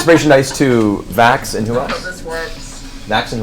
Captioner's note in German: lacht